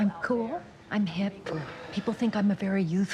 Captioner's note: sighs